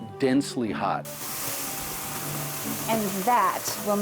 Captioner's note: hissing sound